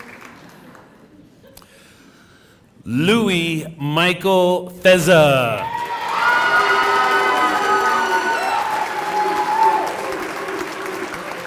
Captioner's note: laughter